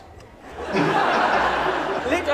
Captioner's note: laughter